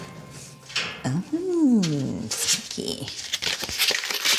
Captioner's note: paper rustles